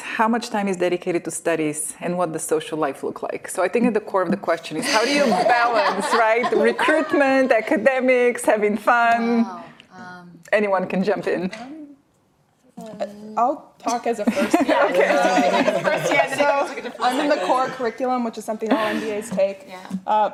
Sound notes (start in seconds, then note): 14.3 laughing